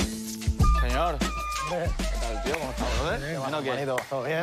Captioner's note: laugh